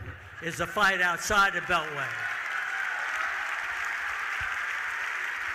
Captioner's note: audience cheering